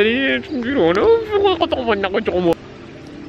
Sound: wobbling

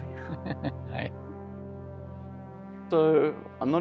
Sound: laughs

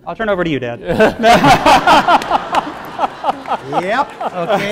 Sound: laughing

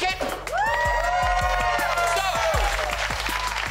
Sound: all cheering

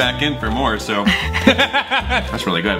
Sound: laughs

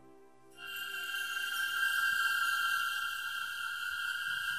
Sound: magical sound

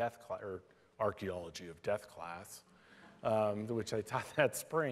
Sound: in serious voice

